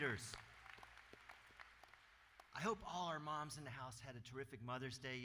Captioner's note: applause